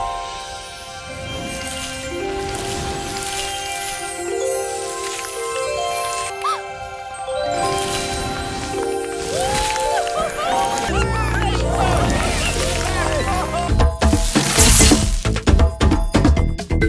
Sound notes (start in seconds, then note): 2.8 gentle music; 6.0 gasps; 9.2 all cheering